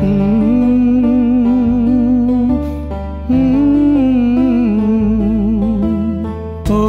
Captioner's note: humming; humming